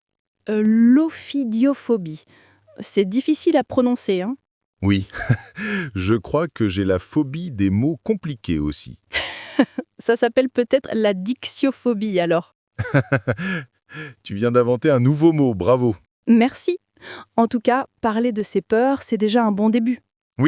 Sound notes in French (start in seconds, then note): 8.9 rire